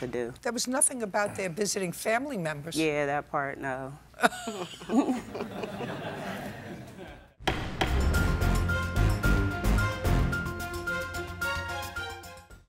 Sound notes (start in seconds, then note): 4.2 laughter; 4.2 laughs